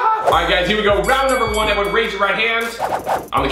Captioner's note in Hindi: घंटी dings